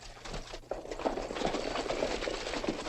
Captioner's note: horses trotting